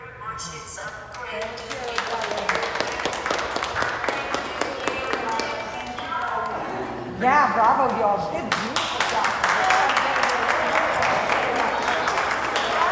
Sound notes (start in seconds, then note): 1.1 clapping; 8.4 clapping